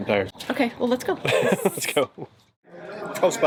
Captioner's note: laughs